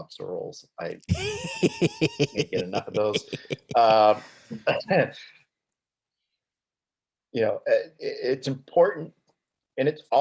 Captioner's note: both laughing